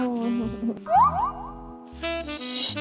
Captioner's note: about to drink coffee sound effect